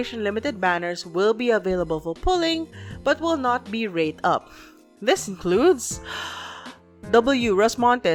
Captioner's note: deep breath